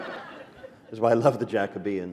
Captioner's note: laughter